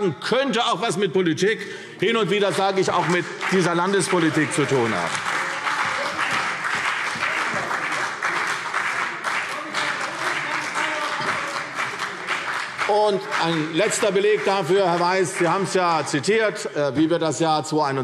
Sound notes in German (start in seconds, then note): 6.6 Beifall